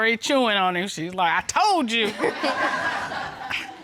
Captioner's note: chuckles